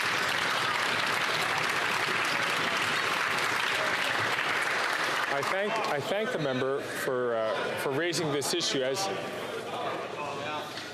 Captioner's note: some Applause